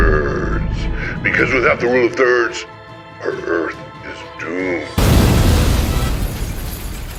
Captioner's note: explosion